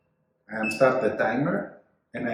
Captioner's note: machine beeps